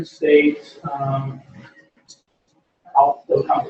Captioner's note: pause